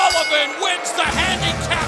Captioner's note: bell ringing